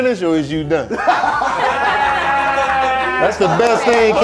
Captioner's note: laughing